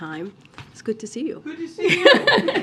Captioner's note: laughter